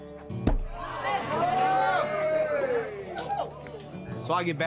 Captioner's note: crowd cheers